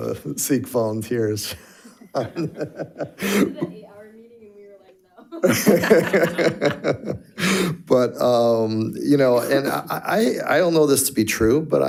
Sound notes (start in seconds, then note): 1.9 laughs; 5.3 all laugh